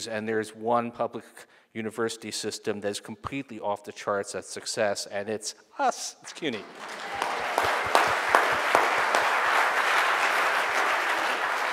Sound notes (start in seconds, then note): 6.5 audience cheering